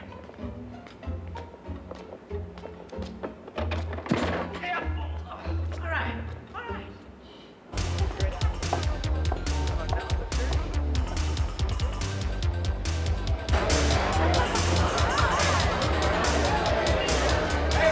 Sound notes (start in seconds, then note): 7.5 upbeat dance music playing; 13.2 indistinct chatter